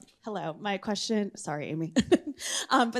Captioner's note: laughs